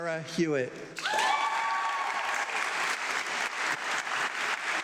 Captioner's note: audience clapping